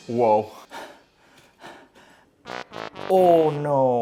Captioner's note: drum roll ends; heavy breathing